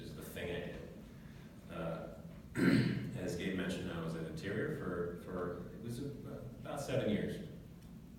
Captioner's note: cough